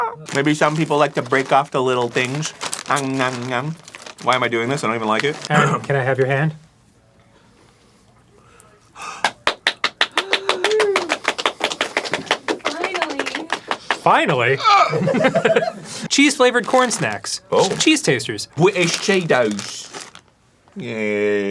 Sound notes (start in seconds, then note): 9.0 arin gasps; 9.2 applause